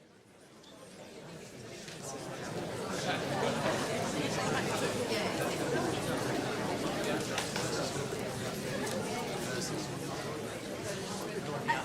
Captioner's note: crowd sounds gradually growing louder